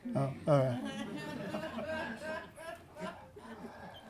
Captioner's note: laughter